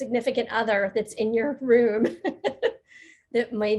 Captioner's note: chuckling